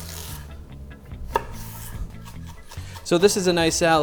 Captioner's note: knife chopping